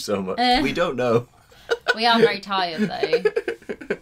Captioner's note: laughs